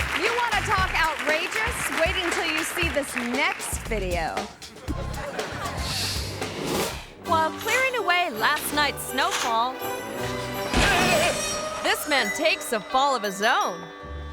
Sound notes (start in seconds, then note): 4.7 audience laughing; 10.8 man shouting